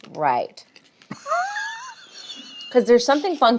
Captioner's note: laughs